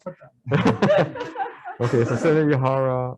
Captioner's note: all laugh